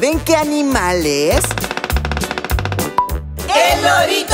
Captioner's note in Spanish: Sonido de pájaro carpintero